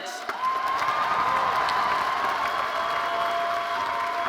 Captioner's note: audience cheering